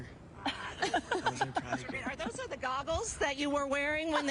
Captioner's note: laughter